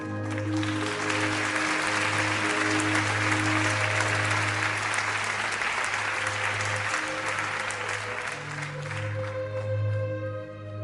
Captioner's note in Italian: Applauso